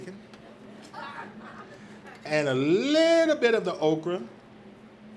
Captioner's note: audience laughs